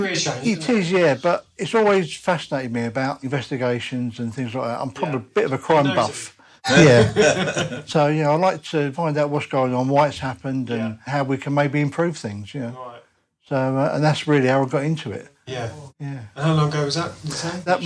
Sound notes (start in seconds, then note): 6.7 laughter